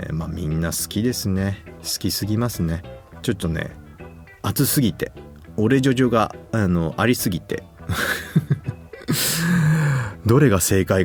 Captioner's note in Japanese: 笑い